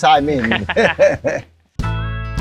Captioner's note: laughs